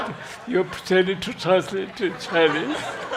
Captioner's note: laughter